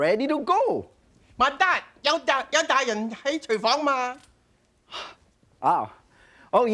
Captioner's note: speaking in foreign language